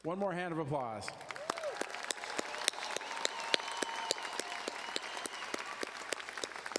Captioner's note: audience cheering and applauding